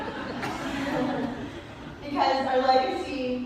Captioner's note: laughter